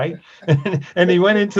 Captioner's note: laughs